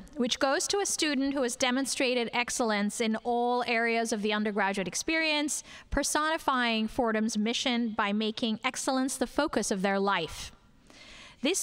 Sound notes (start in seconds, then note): none